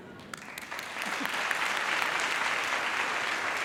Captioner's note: applause